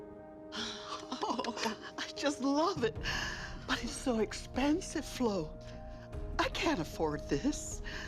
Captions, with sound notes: (friends laughing) - I just love it. But it's so expensive, Flo. I can't afford this.